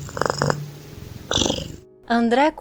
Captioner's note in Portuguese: ronrom